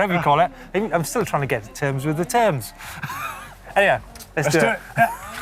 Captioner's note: laughter